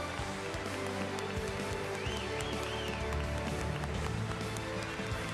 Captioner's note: applause